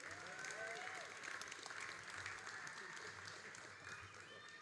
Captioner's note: all applauding and cheering